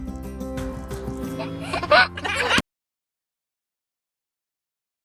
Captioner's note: laughing